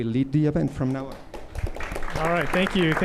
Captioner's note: applause